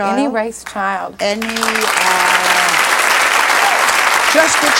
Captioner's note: audience applauds